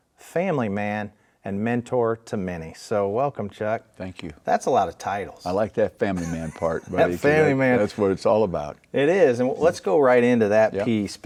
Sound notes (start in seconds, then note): 6.1 laughing